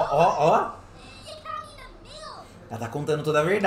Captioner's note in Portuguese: sims falando